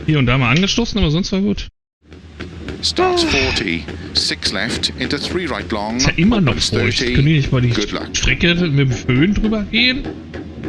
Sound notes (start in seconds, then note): 3.1 sighs